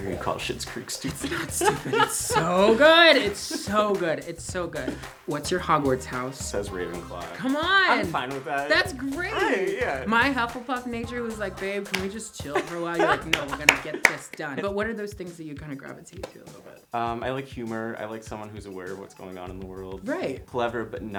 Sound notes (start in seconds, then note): 1.0 laughs; 12.5 laughs